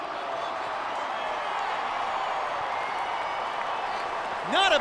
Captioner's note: crowd cheers